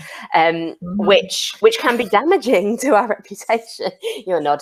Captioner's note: laughs